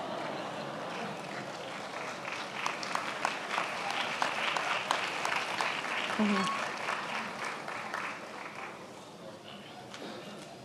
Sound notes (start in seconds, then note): 2.4 attendees applauding